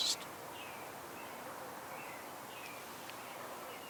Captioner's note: birds chirping